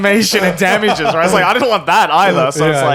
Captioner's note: laughing